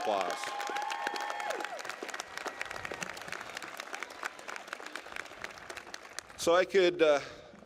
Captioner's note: applause